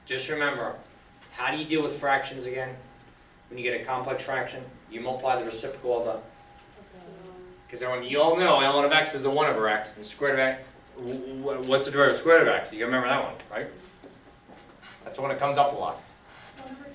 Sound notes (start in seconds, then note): 6.9 students speaking softly